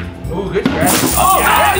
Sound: coins clinking

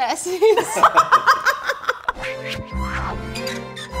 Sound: laughing; upbeat violin music

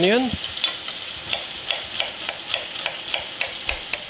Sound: knife taps

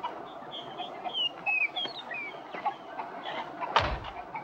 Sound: birds chirping

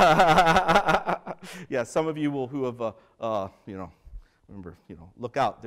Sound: laughter

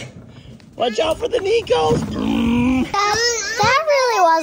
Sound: imitates engine

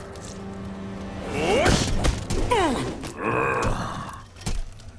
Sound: grunting

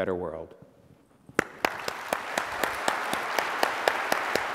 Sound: applause

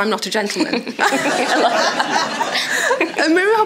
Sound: audience laughs

